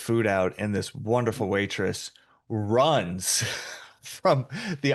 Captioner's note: chuckles